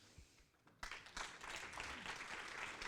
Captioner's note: applause